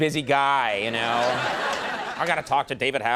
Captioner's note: audience laughing